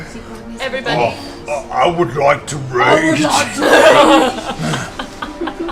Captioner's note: Grog voice